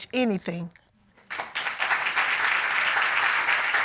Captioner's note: applause